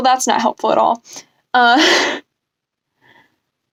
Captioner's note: laugh